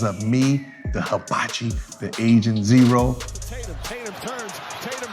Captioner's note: crowd cheering